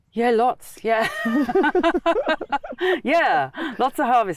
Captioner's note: laugh